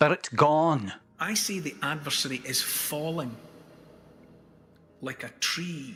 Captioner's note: Neil speaking normally again